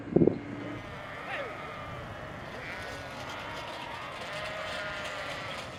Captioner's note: farm animals bleating